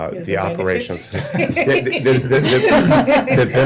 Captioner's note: laughter